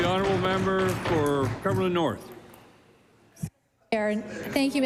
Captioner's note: applause